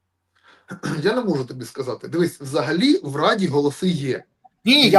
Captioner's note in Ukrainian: прочищення горла